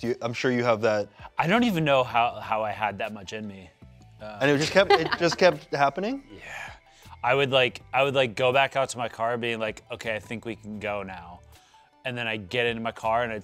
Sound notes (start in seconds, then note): 4.6 laughs